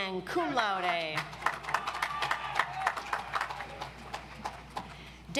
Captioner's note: audience applauds